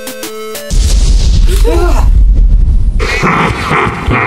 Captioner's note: explosion